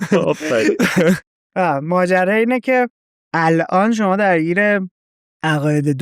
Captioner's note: laughs